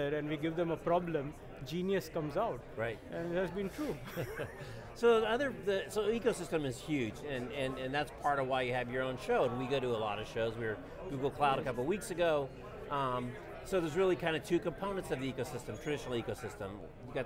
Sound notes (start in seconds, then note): 3.8 laughs